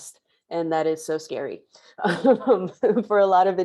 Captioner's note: chuckles